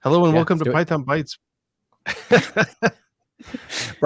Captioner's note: laughter